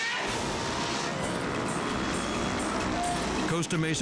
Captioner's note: dramatic music; engines rumbling